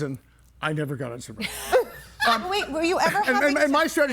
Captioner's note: everybody laughing